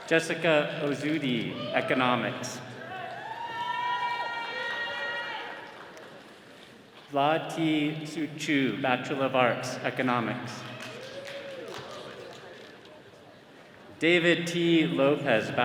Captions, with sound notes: Jessica Ozudi, Economics. (attendees cheering) Vlad T. Suciu, Bachelor of Arts, Economics. David T. Lopez,